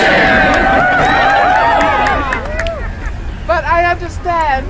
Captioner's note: crowd cheers